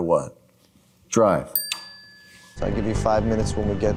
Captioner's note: bell dings